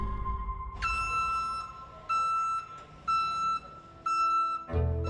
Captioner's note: ambulance beeping